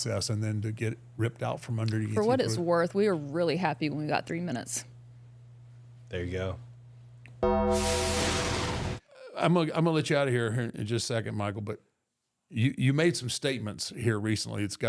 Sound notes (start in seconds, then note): 7.4 logo dings; 7.5 logo whooshing